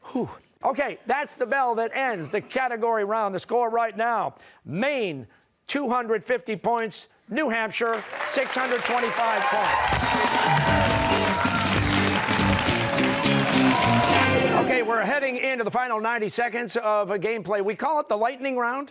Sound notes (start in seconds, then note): 9.5 cheers and applause